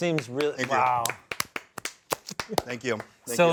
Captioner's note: group applauds